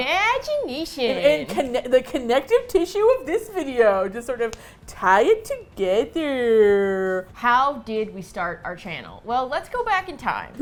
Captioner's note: silly voice; silly voice